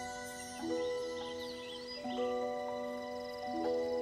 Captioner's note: birds chirp